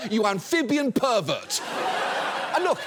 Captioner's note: audience laughs